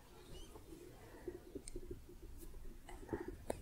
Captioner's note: light tapping